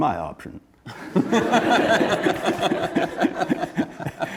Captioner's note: laughing